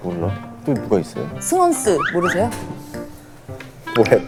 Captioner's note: Scratch